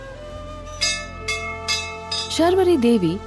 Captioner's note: bell jingles